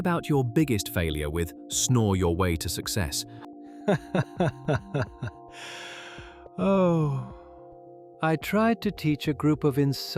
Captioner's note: laughs